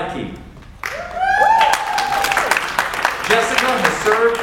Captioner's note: audience cheers and applauds